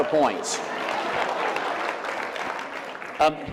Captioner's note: laughter